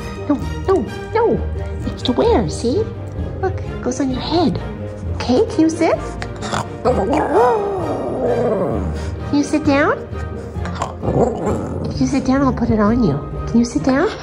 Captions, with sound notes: No, no, no. It's to wear, see? Look. It goes on your head. Okay? Can you sit? [howling] Can you sit down? [grumbling] If you sit down, I'll put it on you. Can you sit down?